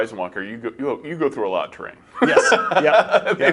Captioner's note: laughs